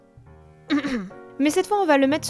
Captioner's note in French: raclement de gorge